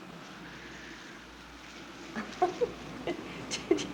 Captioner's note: wind howling; laughing